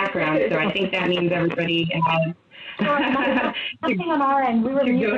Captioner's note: laughs